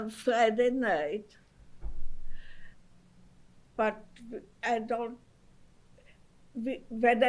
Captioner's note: pauses for 3 seconds